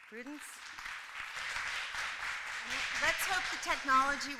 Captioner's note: applause